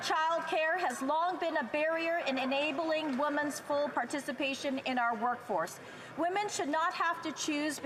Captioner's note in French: voix de l'interprète